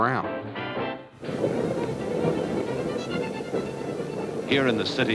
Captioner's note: lively music; train rattling